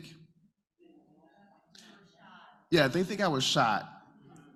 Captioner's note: crowd member says "shot."